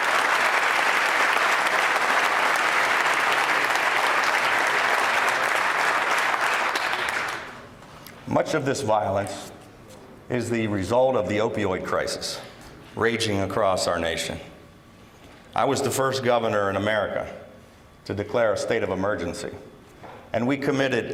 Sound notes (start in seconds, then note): 5.9 applause